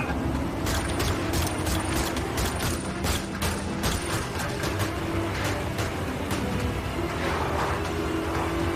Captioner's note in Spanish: Disparos